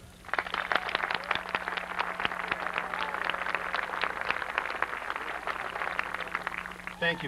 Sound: applause

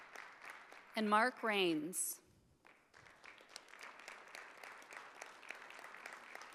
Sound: audience applauding

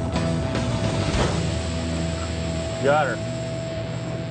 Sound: metal clanks

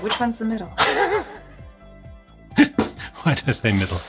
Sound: laughs

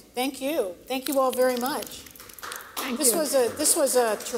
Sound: applause

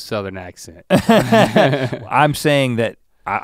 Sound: both chuckle

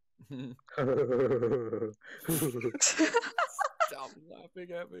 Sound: strange silly laugh

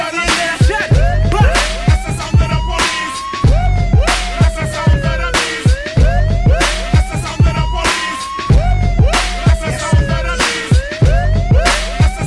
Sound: woop, woop

